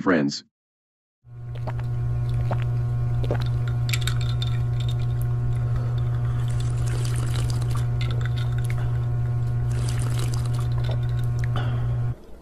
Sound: people sipping drinks, ice clinking, slurping

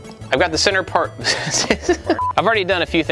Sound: laughs

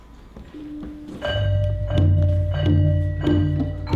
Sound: gongs and metallic sounds

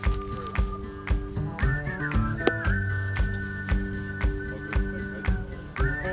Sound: man whistling; people chattering

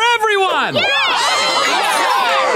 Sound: cheering

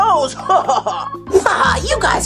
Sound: Rubble laughs

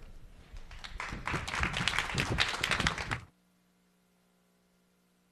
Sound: attendees applauding

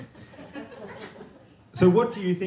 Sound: audience giggling

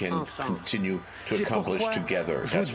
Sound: speaking French

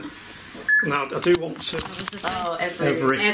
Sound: loud beeping

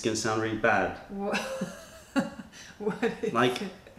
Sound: laughter

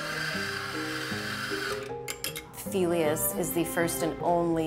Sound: espresso machine whizzes

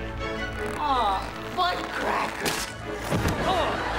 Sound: groaning

